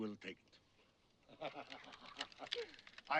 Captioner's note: laughs